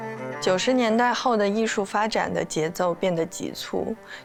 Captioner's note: Mandarin